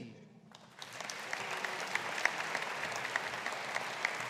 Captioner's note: audience applauding